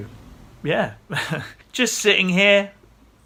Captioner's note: laughs